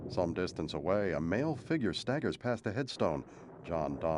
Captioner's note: thunder crashing